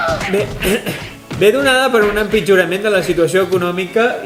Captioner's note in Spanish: Se oyen golpes y gritos